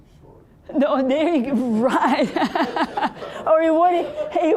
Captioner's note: all laughing